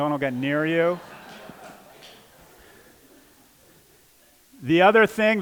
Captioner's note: laughter